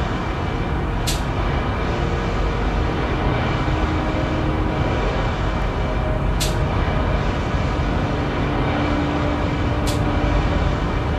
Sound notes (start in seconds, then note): none